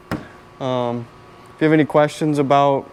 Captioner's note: hand tapping